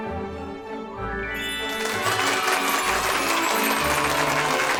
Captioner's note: applause